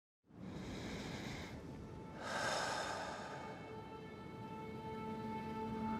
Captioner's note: Baratunde breathing deeply